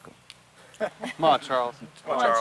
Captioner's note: lalaugughthterer